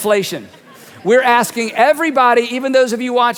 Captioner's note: audience laughing